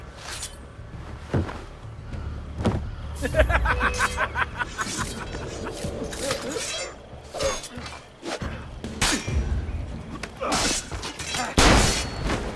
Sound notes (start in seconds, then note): 3.1 slave trader laughs; 5.8 hidden blade stabbing sound; 7.2 fighting sounds